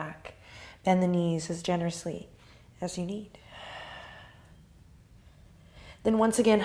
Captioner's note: exhales